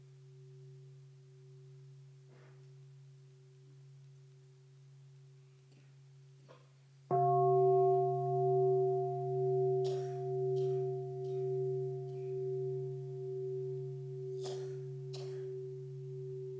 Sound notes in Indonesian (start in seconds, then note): 7.1 Bunyi genta